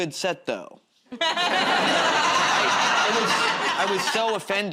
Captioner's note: laughter